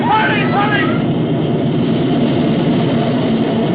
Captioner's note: helicopter whirring